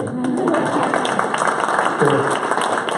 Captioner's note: applause